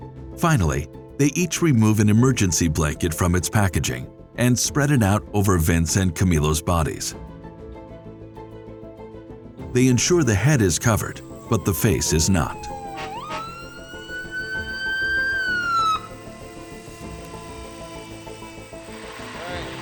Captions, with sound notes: Finally, they each remove an emergency blanket from its packaging, and spread it out over Vince and Camilo's bodies, They ensure the head is covered, but the face is not. [Sirens]